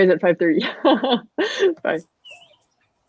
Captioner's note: laughs